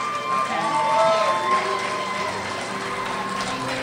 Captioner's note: crowd cheers